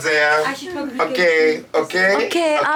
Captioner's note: speaks French